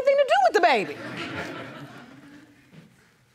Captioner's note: audience laughing